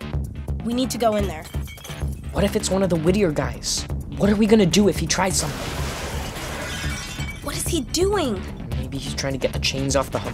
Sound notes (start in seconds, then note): 5.4 crashing, glass breaking